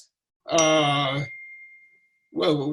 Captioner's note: timer ringing